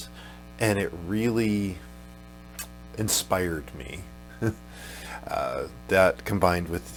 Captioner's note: chuckles